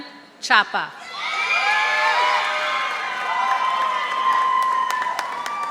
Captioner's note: audience applauding